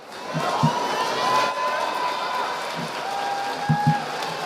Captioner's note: audience applauding